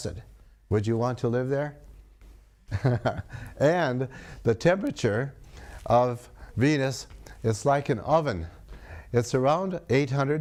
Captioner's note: laughs